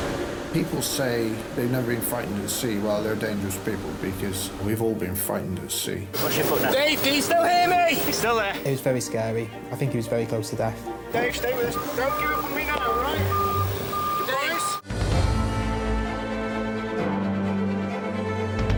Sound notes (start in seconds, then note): 12.7 alarm beeps; 14.5 dramatic music